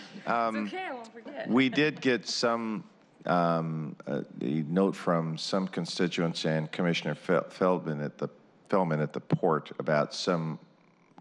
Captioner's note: laughter